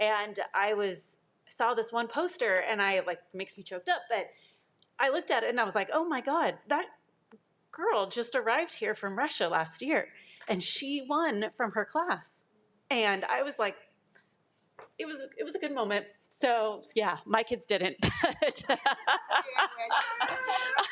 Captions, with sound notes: And I saw this one poster and I like, makes me choked up, but I looked at it and I was like, oh, my God, that girl just arrived here from Russia last year and she won from her class. And I was like, it was a good moment. So yeah, my kids didn't but (laughs),